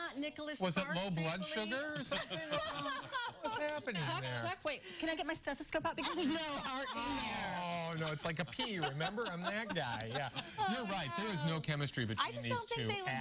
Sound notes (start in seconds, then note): 1.9 laughter